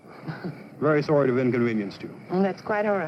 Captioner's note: laugh